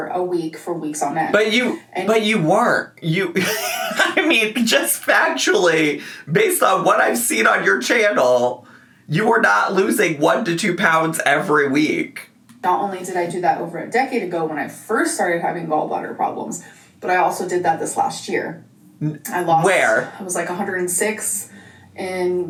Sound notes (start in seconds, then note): 3.4 laughs